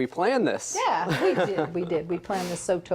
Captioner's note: laughs